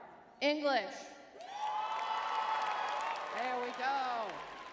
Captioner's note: crowd cheering